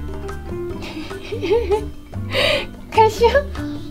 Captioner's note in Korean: 웃음